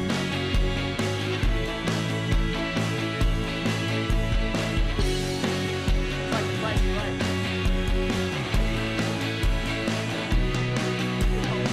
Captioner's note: speaking spanish